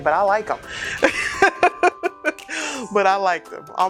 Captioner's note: laughing